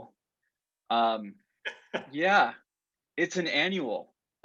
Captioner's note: laughter